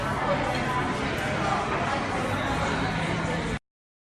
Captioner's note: people chattering